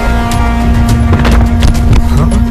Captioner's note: thuds